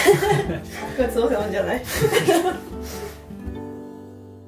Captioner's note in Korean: 웃음